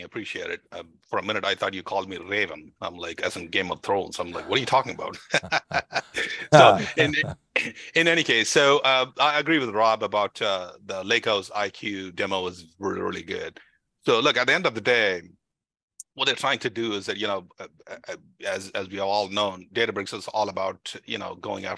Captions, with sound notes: I appreciate it, for a minute I thought you called me Raven. I'm like, as in Game of Thrones. I'm like, what are you talking about? (laughing) So in any case, so I agree with Rob about the LakehouseIQ demo was really, really good. So look, at the end of the day, what they're trying to do is that, as we are all know, Databricks is all about going